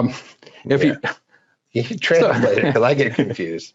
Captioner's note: laughs